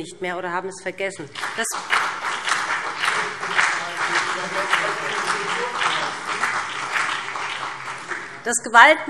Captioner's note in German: Beifall BÜNDNIS 90/DIE GRÜNEN und CDU